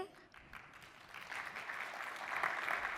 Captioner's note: applause